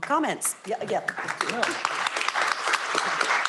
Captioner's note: applause